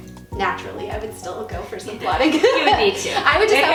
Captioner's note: laughing